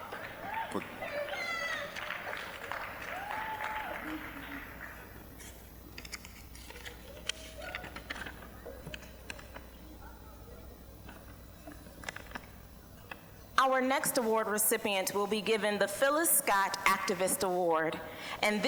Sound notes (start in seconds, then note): 0.0 scattered applause, cheering